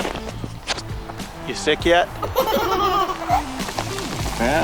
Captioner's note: kids Giggling